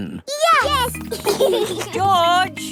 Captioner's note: giggling